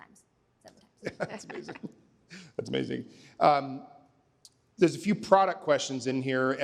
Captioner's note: laughter